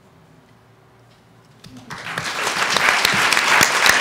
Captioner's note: audience applauds